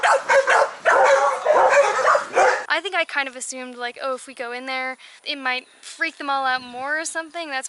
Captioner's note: dogs barking